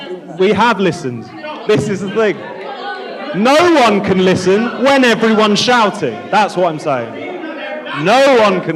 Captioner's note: audience Shouting